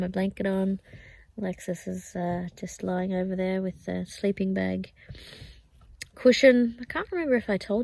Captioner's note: sniffs